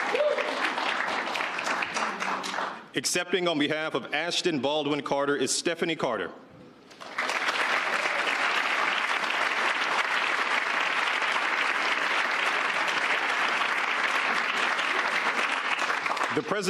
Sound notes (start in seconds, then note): 1.3 applause; 1.3 cheers and applause; 10.3 applause